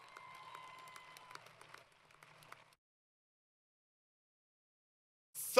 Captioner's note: applause